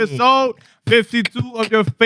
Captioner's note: speaking Spanish